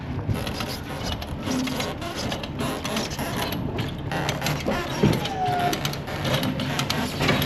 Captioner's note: device squeaks; lift whirs